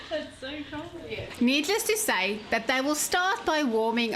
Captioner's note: narrating